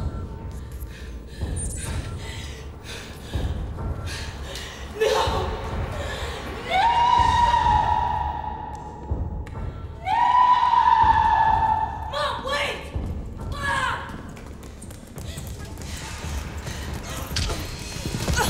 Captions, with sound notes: No! No! (screams continuously) Mom wait! Mom!